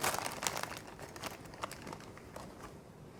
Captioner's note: bag crinkles